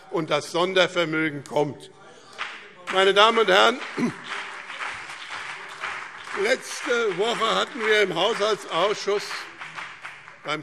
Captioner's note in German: Beifall BÜNDNIS 90/DIE GRÜNEN und CDU